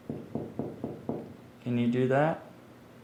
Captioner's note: hand rapping